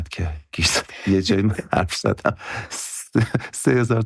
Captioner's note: laughs